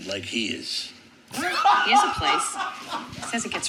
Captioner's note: laughing